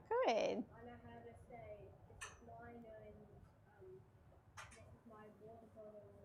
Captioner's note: speaks in foreign language